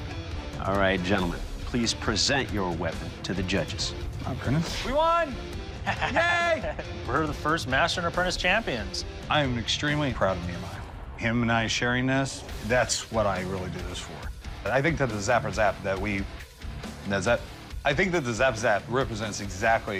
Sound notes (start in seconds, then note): 5.7 laughs